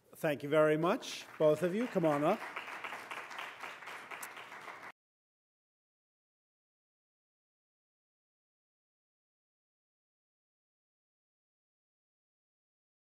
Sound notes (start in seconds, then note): 2.9 applause